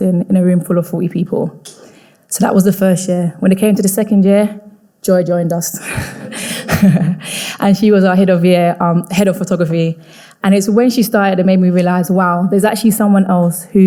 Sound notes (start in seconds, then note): 6.0 chuckles